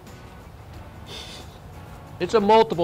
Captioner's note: laughs